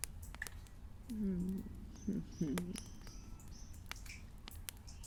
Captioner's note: quiet Chuckling